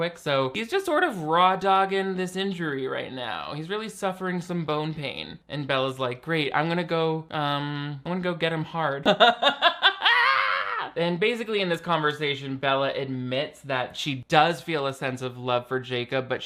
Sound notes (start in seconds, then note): 9.1 laughs